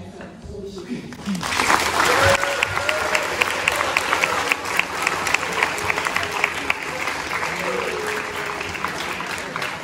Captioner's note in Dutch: applaus